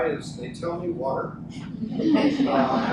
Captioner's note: group laughs